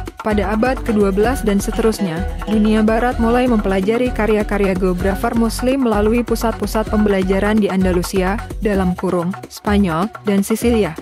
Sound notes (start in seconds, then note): 9.3 Spanish